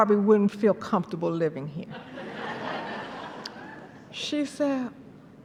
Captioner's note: laughter